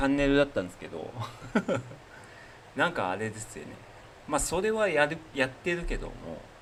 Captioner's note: laugh